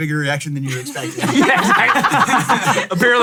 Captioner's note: all laugh